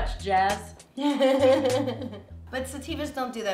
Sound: laughs

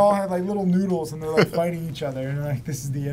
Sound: laughs

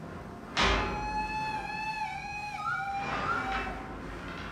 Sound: clanking

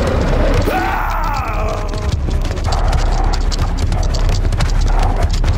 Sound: scorpion growls; Papi growls; dramatic music

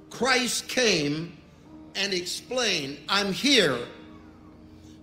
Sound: none

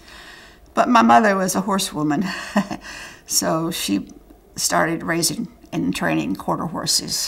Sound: laughter

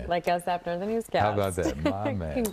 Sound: laughter

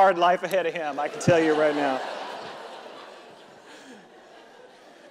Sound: audience laughing

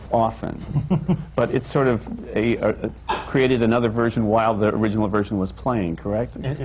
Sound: laughs

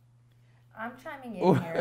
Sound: laughs

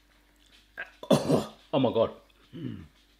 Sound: coughs

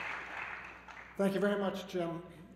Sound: applause

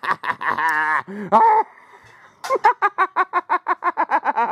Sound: squeals 'n' laughs with evil

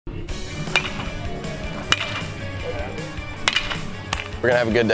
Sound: bat cracks

